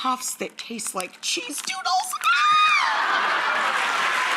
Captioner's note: audience clapping; screams